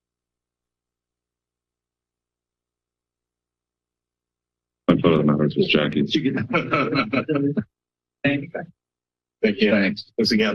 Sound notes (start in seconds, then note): 6.0 laugh